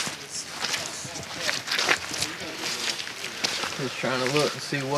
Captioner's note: leaves crunch